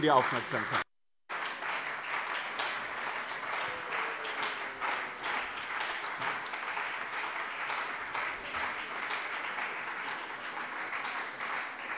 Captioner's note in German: Beifall bei dem BÜNDNIS 90/DIE GRÜNEN und der CDU